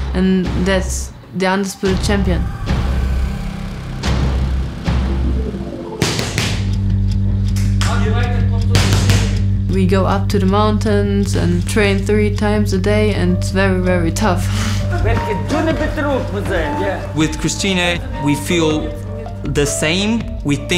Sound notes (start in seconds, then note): 14.9 speaking German